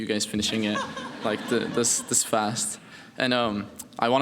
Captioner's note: laughing